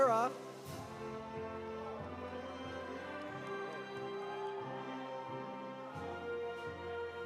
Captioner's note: audience applauding; audience cheering